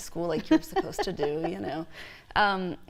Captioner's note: laughter